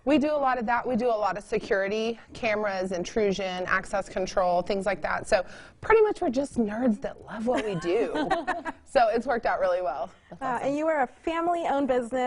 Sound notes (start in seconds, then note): 8.1 all laugh